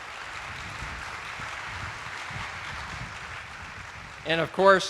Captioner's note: attendees applauding